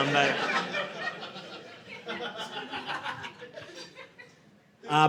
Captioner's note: audience laughing